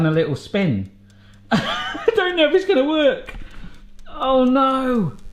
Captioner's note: laughing